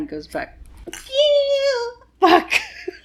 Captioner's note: squeals